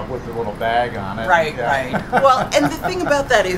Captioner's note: laughter